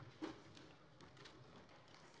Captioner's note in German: none